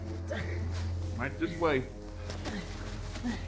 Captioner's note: man groans